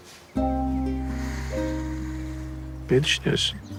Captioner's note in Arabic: زفير